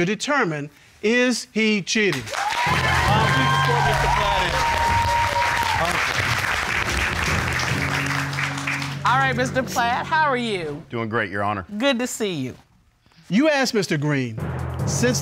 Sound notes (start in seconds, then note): 4.9 audience cheering